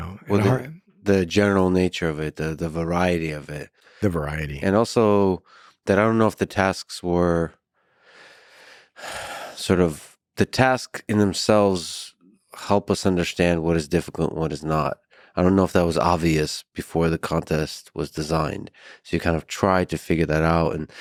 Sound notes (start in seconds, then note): 9.0 sighs